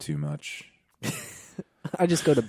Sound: laughing

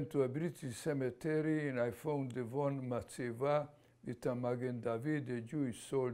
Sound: non-english

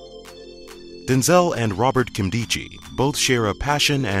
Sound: voiceover

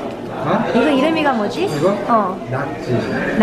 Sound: speaking foreign language

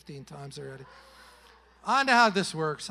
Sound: congregation laughing

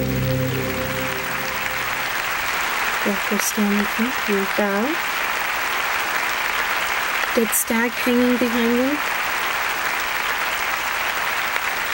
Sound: applause

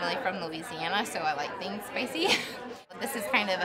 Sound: laughs

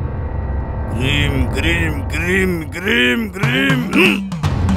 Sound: chanting

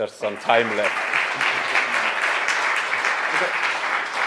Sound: applause

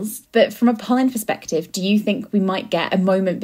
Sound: none

